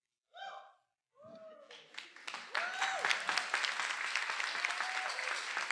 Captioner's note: attendees cheering; everyone applauding